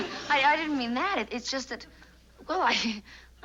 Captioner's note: laughs